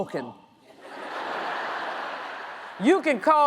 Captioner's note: audience laughs